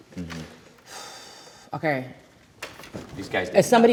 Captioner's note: exhales